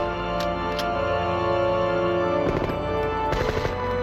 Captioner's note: gun clicks; guns firing